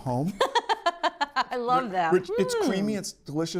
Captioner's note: laughs